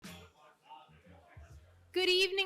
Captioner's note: audience chatting indistinctly